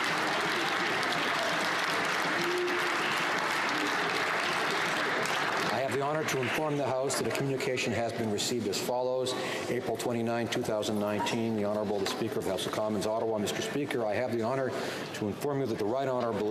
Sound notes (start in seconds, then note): 3.6 applause